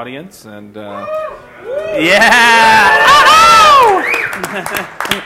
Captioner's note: cheering